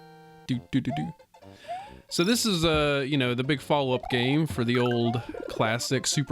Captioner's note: makes music noises